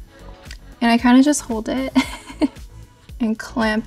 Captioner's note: chuckles